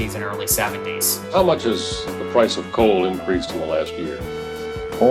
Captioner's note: soundbite of archived recording